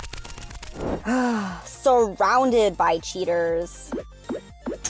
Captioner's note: sigh